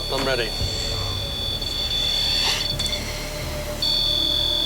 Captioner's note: beeping